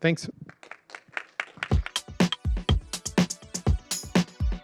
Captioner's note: applause